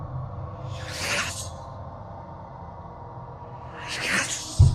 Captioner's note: ghost whispering